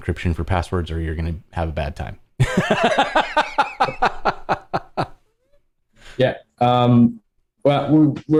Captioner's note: laughter